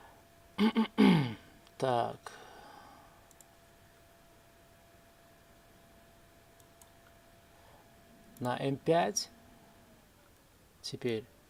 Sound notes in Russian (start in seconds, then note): 0.6 кашель; 3.7 откашливается